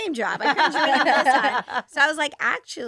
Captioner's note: all laughing